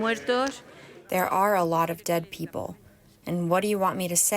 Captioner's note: through translator